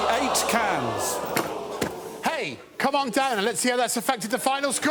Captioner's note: audience exclaims